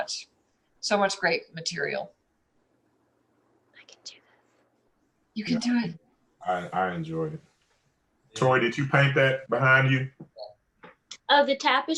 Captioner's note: whispers